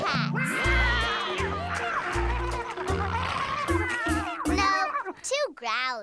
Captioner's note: meowing and growling